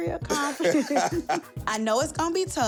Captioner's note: laughter